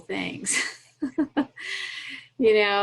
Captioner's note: laughs